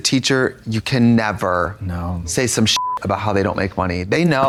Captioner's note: beep